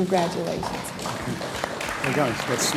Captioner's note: audience applauds